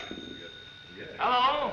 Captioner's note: phone rings